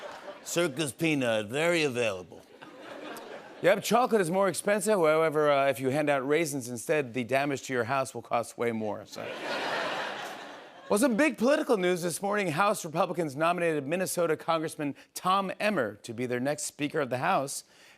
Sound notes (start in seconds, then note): 9.2 laughter